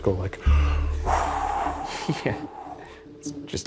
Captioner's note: exhaling deeply